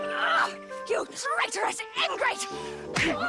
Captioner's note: playful music; grunting; groaning